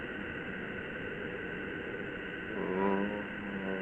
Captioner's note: faint moan